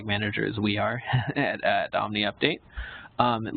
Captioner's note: chuckles